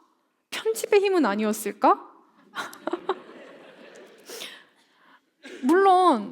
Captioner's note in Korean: 웃음